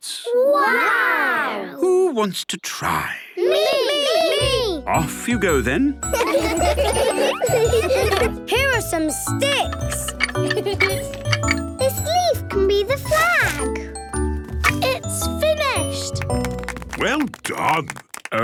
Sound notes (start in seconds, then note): 6.1 laughter; 10.5 laughing; 16.0 applause